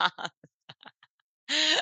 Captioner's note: laughs